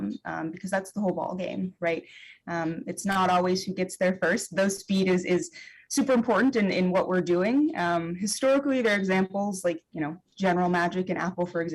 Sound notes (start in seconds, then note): none